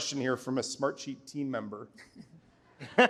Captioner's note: laughter